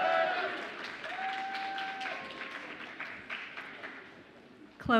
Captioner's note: audience applauds and cheers